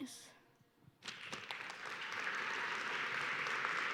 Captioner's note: applause